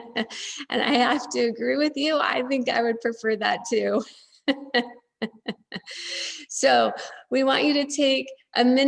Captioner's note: laughs